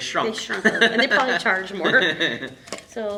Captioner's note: laughter